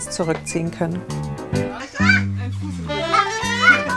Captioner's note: squeaks, laughter, snatches of conversation